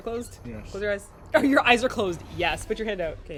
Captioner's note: laughs